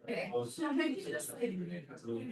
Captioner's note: background chatter